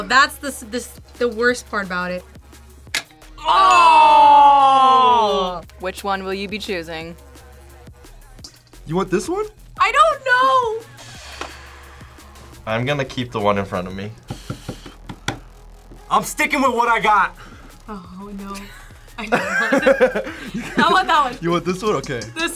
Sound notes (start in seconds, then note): 11.1 sighs; 14.6 sighs; 19.2 both laugh